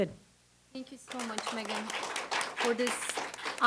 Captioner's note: audience claps